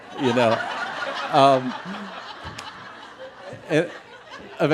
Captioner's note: laughter